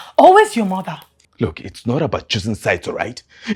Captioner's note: none